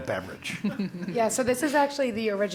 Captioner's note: laugh